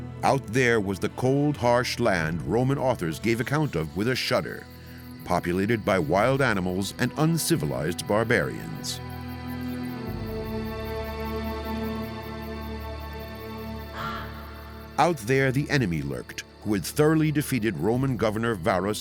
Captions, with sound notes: Out there was the cold, harsh land Roman authors gave account of with a shudder, populated by wild animals and uncivilized barbarians. [crow caws] Out there, the enemy lurked, who had thoroughly defeated Roman Governor Varus